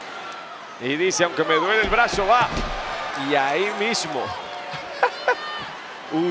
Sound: laugh

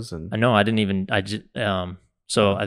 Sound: stammers

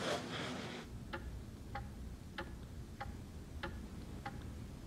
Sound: clock ticks

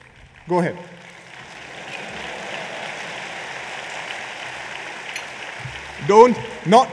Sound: applause

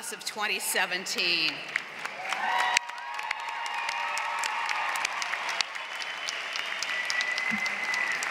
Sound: applause

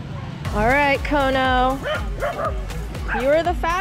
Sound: dog barking

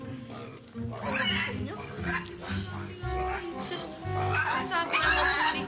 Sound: pig squealing

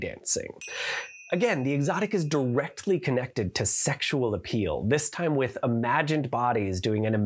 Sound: chime

